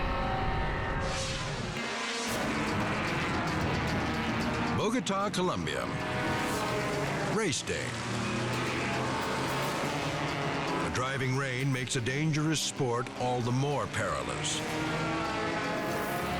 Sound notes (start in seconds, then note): 1.6 cars revving; 14.9 cars revving